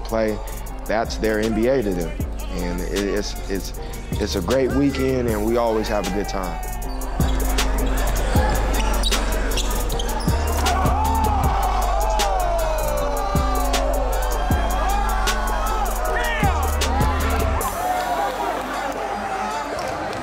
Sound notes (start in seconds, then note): 8.5 crowd Cheering